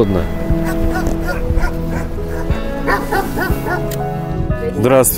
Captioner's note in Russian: лай собаки